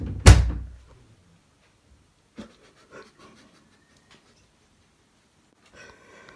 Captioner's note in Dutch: lachen